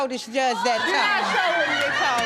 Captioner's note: audience laughing